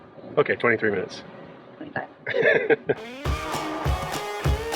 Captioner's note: chuckles; upbeat music